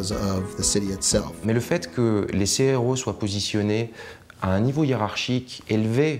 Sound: speaking foreign language

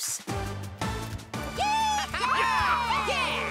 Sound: all cheering

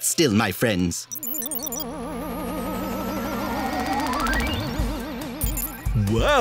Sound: computational noises

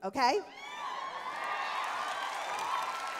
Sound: cheering

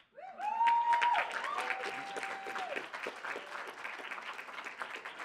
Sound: audience applauding

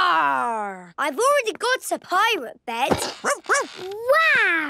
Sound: barking

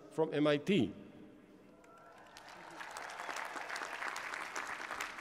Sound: applause

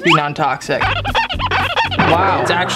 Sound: marker scrubbing noise

